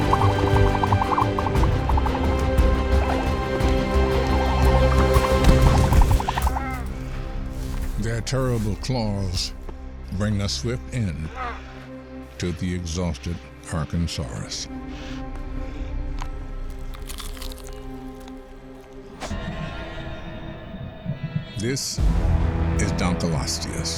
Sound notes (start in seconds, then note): 0.0 trilling; 6.3 music fades; 6.3 squawking; 16.6 crunching